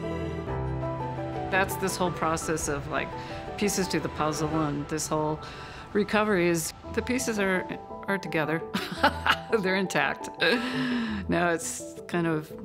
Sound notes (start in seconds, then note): 0.2 upbeat hopeful music; 8.8 laughs